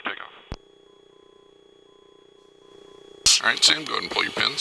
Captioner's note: systems humming and beeping